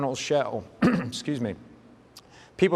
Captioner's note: clears throat